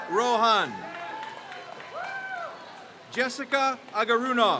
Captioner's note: crowd cheers